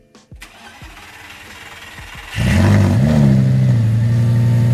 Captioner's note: engine starting